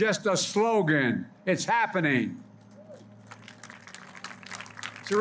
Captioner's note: applause